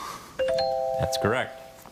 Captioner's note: bell chimes